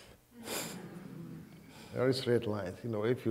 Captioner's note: audience humming